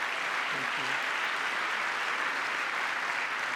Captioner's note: applause